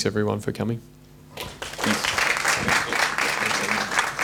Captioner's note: crowd applauding